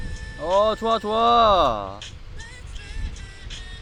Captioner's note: speaking like an old man